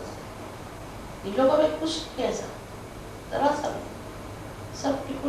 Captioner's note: hindi